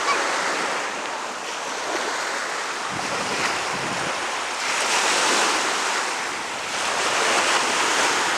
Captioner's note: sound of the wind